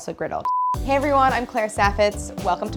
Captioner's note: beeping